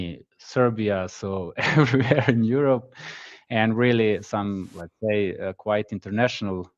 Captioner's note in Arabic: ضحك